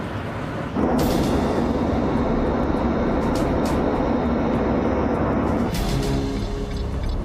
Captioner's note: dramatic music; plane engine roars